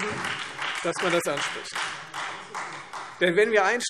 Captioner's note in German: Beifall Freie Demokraten und vereinzelt SPD